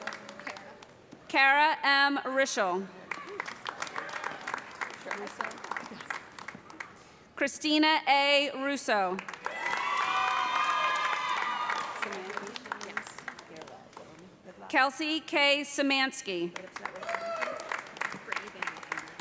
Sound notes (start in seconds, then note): 3.0 applause; 9.2 cheers and applause; 16.5 applause